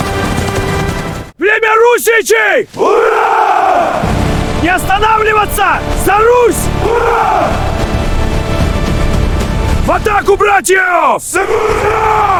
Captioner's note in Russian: крик